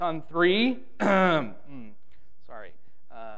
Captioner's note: clears throat